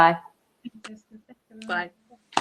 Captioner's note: speaks faintly